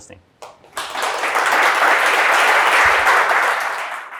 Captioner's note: attendees clapping